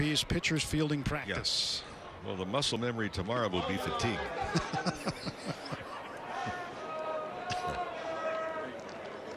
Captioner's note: laughter